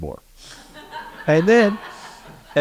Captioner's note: laugh